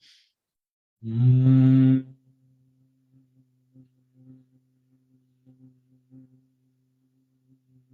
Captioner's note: гудіння, мов у джмеля